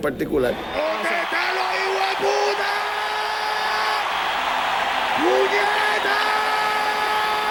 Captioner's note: crowd cheers